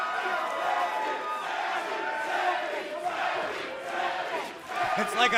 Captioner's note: fans chanting